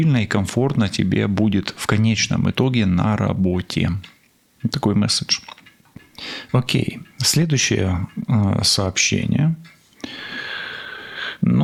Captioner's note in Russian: тяжело вздыхает